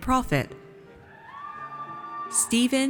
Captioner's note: audience cheers